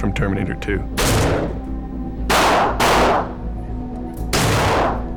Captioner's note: gunshots fires